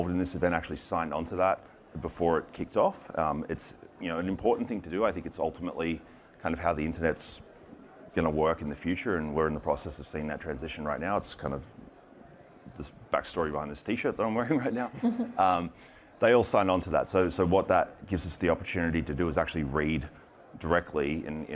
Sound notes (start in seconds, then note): 14.7 chuckles